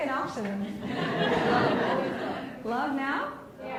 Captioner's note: laughs